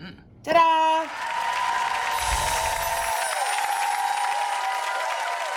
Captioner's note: applause and cheering